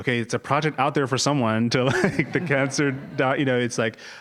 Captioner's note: laugh